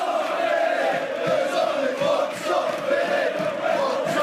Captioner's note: fans chanting